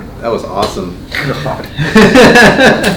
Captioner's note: laughing